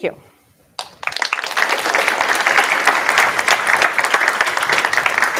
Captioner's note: applause